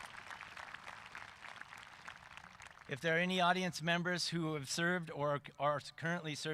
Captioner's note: cheering and applause